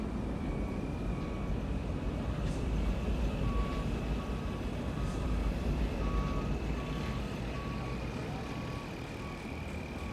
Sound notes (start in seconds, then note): 2.8 construction vehicles rumbling; 5.9 construction vehicles beeping